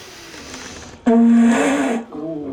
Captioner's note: blowing noise